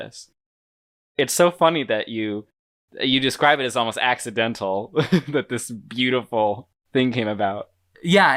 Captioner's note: laughs